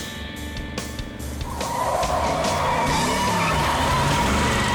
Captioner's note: tires screech